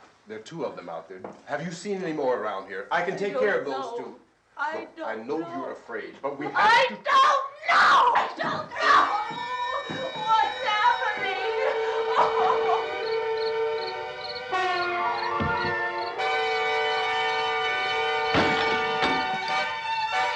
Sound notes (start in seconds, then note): 11.2 whimpers; 12.2 Barbra sobs